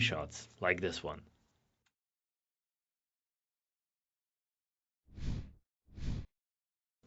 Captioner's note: air whooshing